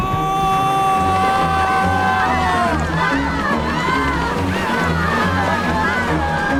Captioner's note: all yelling